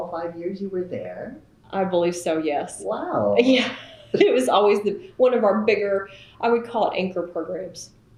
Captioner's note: laughs